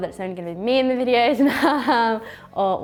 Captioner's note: laughs